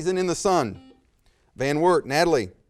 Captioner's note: buzzer